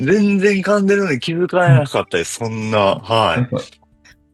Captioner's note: laughs